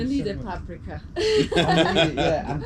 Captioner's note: couple laughs